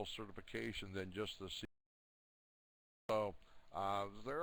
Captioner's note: audio drops